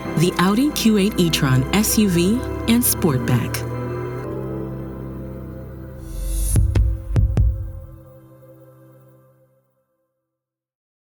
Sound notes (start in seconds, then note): 3.5 engine revving; 4.4 gentle music; 6.1 hi-hat vibrating; 6.5 heart beating